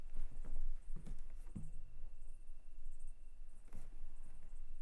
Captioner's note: crickets chirping